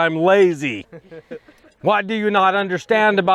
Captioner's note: men laughing